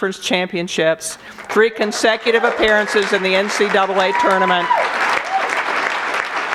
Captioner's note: audience applause